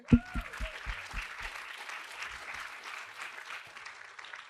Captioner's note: applause